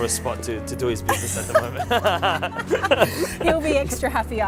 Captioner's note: laughter